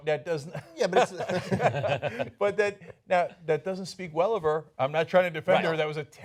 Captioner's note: laughter